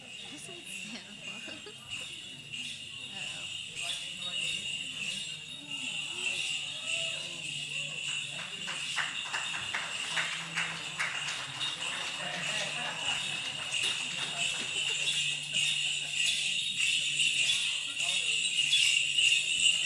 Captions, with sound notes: Listen to him! (enthusiastic shouts) (applause)